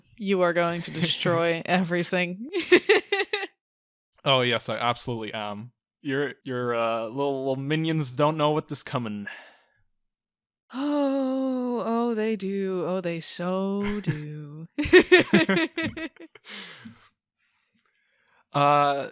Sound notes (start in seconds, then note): 11.3 sigh; 14.8 both laugh